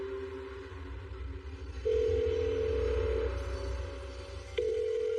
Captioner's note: phone ringing